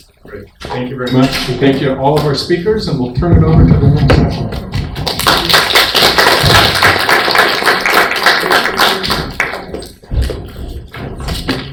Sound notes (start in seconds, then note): 7.5 applause